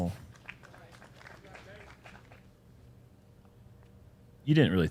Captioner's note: applause